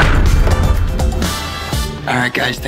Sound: booming effect

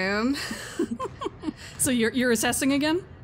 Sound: laughs

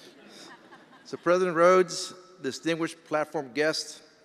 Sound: attendees laughing

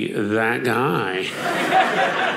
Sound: audience laughing

